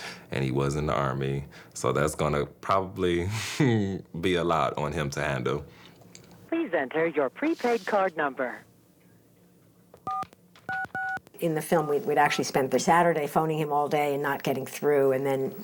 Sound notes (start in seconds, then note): 3.5 laughs; 10.6 phone buttons